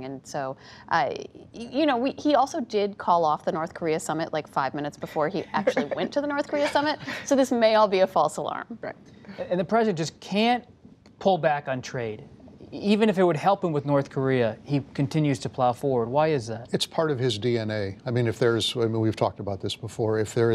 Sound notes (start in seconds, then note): 5.4 laughter